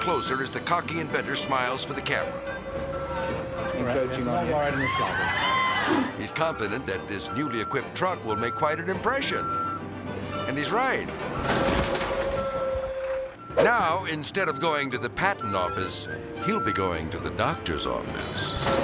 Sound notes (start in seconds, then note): 9.3 truck back-up alarm beeping; 11.4 impact crashes; 11.5 truck motor rumbling